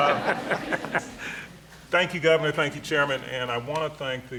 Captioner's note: laughter